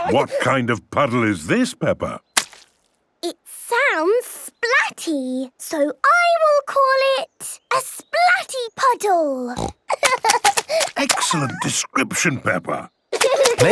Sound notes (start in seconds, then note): 9.6 snorting; 9.9 giggling